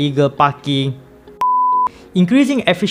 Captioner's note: beep